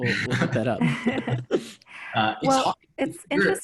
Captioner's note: all laugh